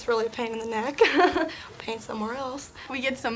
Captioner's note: laughs